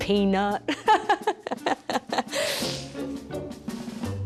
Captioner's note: laughing